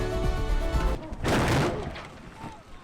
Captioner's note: crash